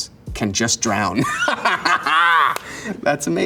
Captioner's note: Elijah laughs